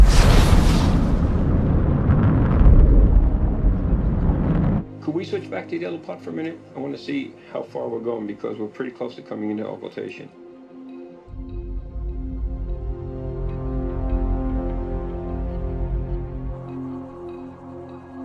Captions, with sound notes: (engine blasting) - Can we switch back to the other part for a minute? I want to see how far we're going because we're pretty close to coming in to occultation. (tense music)